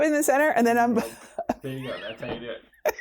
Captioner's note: laughing